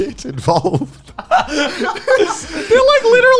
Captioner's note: laughing